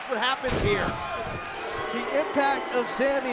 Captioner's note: crowd cheering